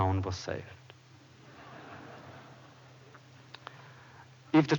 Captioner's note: laughter